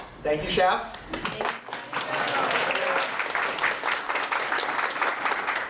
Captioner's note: audience Applause